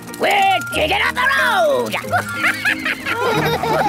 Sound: chuckles

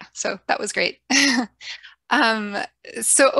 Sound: chuckles

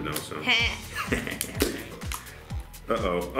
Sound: laughs

